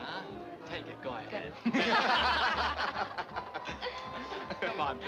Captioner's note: people laughing